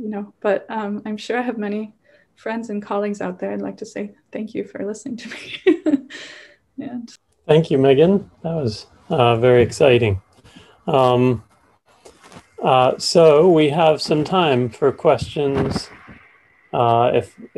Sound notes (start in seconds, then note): 5.6 laughs